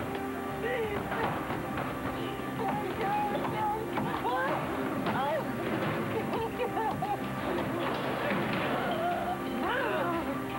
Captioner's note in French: Sanglots